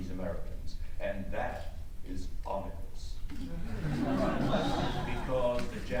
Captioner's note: audience laughs